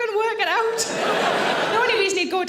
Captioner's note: audience laughs